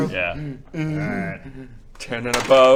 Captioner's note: uurrghh